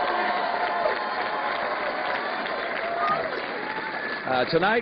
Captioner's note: cheers and applause